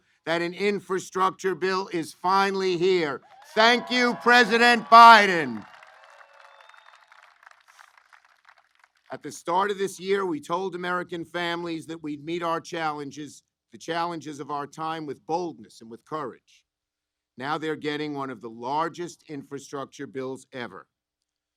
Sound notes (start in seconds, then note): 6.2 applause